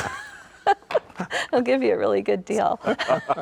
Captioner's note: chuckling